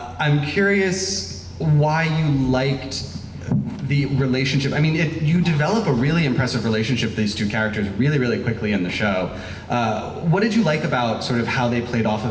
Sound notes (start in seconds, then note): none